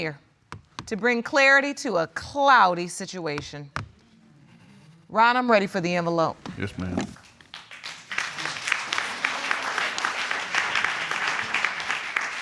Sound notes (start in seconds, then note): 9.0 audience applauding